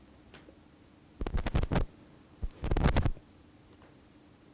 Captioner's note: lav microphone rustling